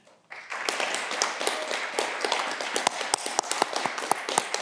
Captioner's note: audience clapping